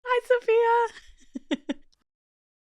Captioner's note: laughs